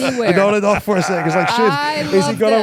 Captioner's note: laugh